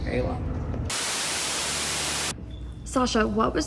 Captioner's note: static buzzes